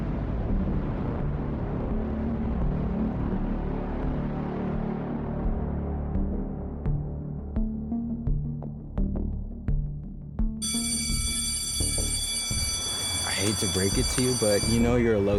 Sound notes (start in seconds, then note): 4.8 tense music continues; 10.6 school bell ringing